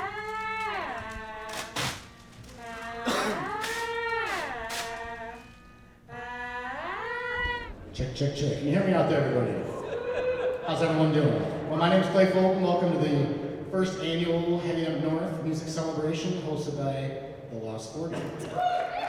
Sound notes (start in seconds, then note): 3.0 coughs